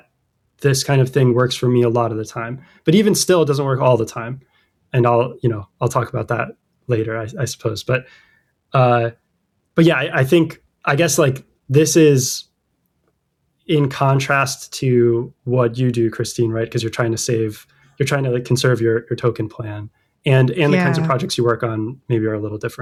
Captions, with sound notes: this kind of thing works for me a lot of the time but even still it doesn't work all the time. And I'll, you know, I'll talk about that later I I suppose but [UH] but yeah I I think I guess like this is in contrast to what you do Christine right? Because you're trying to save you're trying to like conserve your your token plan and and Yeah. the kinds of projects you work on maybe are a little different